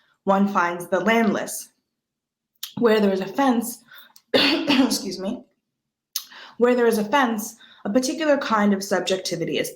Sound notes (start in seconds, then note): 4.3 coughs